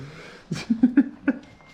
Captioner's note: laughing